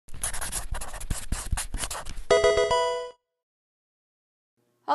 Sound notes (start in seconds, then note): 0.1 pencil writing; 2.3 Pokemon game sound